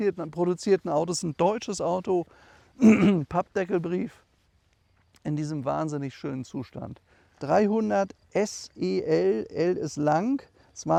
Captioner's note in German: räuspern